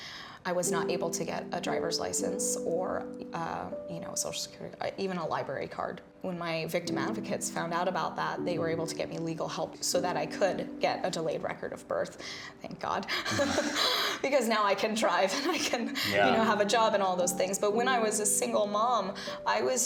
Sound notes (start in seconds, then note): 13.2 laughs